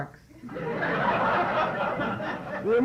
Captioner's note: laughter